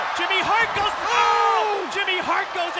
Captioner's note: commentators exclaim